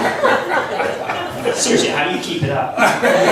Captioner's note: laughs